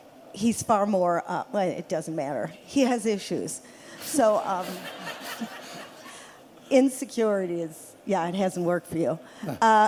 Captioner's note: laughter